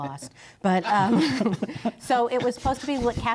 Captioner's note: laughter